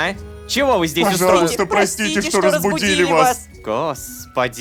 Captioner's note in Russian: хором